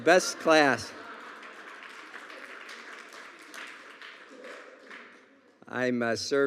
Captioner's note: audience laughing and clapping